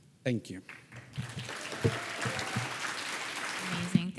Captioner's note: audience applauding